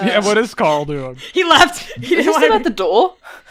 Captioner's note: lauhging